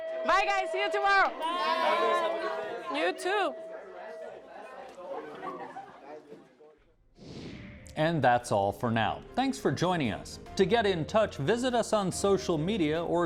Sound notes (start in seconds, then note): 4.0 students chattering; 7.1 whoosh